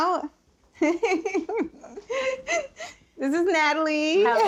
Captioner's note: laughing